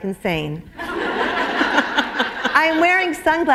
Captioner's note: laughter